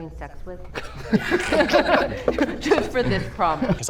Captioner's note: all laugh